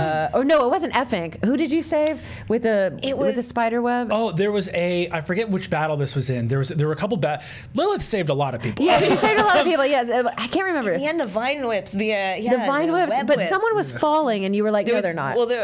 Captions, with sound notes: oh, no! It wasn't Efink. Who did you save with the spider web? - oh, there was a, I forget which battle this was in. There were a couple battle, Lilith save a lot of people. (all laughing) - Yeah, she saved a lot of people, yes. I can't remember. - And the vine whips, the, web whips. - But, someone was falling and you were like, no, they're not.